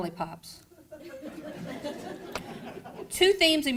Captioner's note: crowd laughing